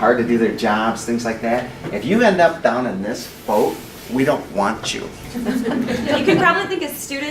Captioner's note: laughter